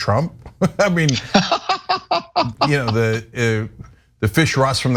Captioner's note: laugh